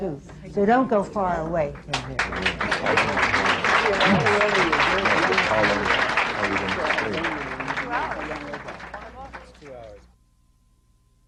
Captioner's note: applause